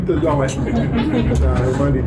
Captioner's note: laughing